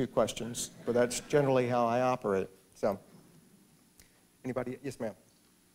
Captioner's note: laughter